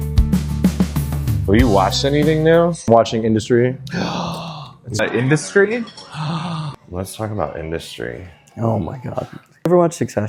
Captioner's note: gasp